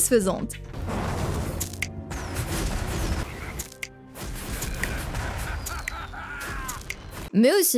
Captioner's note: game sound effects: finger snap